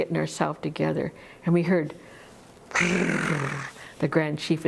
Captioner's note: tongue roll